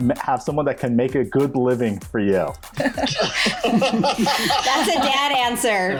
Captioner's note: both laugh